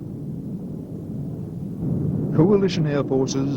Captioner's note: jet engine roaring